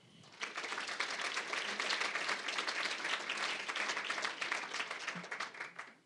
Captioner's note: applause